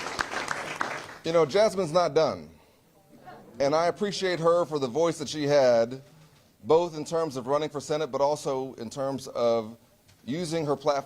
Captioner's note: applause